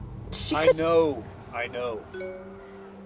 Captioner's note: notification sound